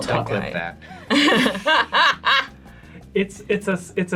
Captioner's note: all laugh